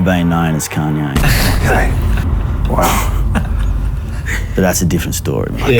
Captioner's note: laughs